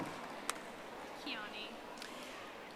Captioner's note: audience applauding